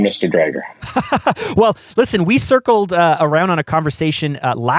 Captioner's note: laughs